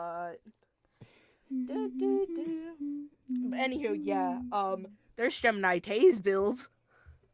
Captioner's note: humming